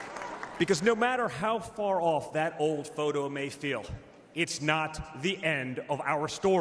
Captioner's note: applause